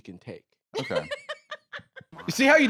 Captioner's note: laughs